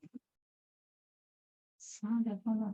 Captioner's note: silence